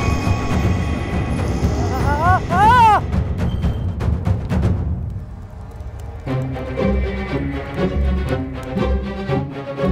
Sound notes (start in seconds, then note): 2.0 screams of death